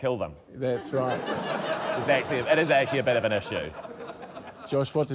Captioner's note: laughter